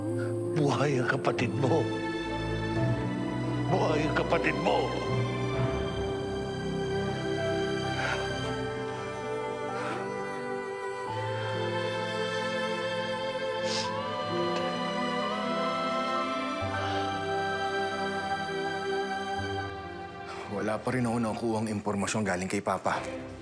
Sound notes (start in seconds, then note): 8.1 sobs; 13.4 sniffles; 14.5 morose music continues